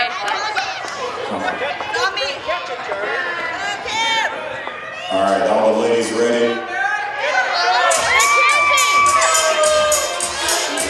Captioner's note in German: Beifall